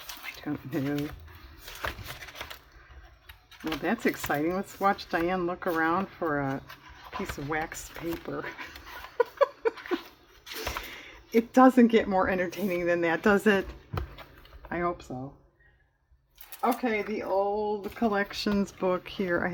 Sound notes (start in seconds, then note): 8.5 laughs